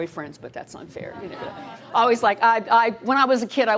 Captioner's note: laughter